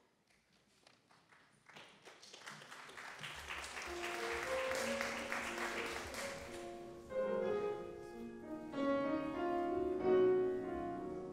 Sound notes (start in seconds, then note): 1.0 audience applauds; 7.4 solemn piano music